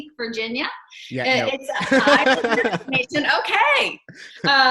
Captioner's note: laughs